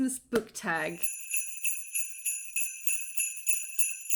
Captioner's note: sleigh bells